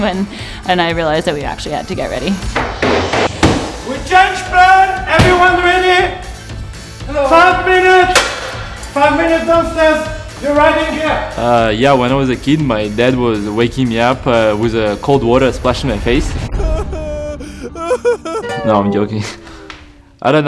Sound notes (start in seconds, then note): 2.5 bangs on wall; 4.0 yells; 9.3 yells; 16.6 crying